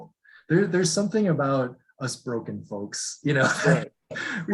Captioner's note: giggles